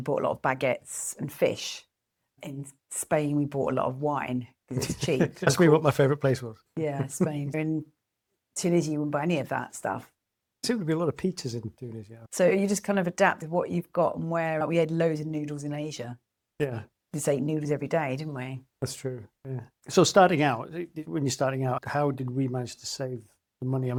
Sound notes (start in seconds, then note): 4.8 laughs